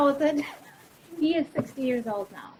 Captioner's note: laughs